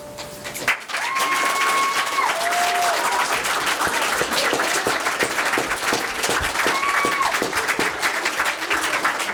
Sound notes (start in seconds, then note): 0.5 applause